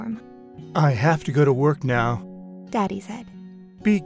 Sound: voiceover; voiceover

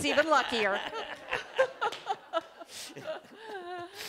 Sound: laughter

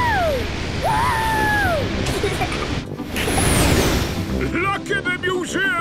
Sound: rocket thrusting

